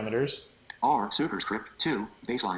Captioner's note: computer Voice